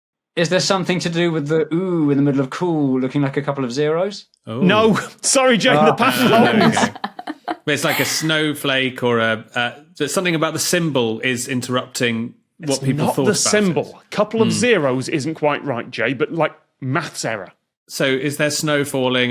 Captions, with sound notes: Is there something to do with the 'oo' in the middle of 'Cool' looking like a couple of zeroes? No, sorry, Jay. The pattern holds. (group laughing) But it's like a snowflake or a— There's something about the symbol, is interrupting what people thought about it. It's not the symbol. Couple of zeroes isn't quite right, Jay, but like maths error. So is there snow falling,